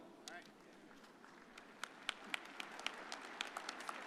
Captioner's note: audience applauding